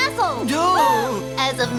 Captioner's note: gasping